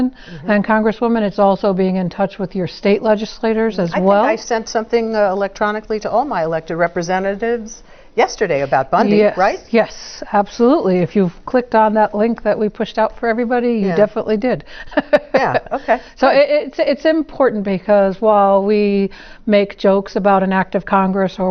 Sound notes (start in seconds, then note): 14.9 laugh